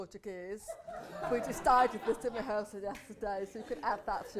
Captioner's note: laughter